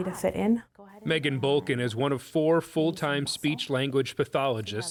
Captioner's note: voice-over